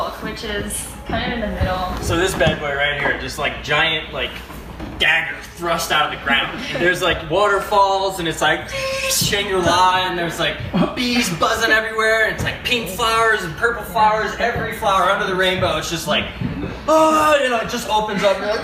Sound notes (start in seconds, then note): 8.1 imitates mechanical sweeping sound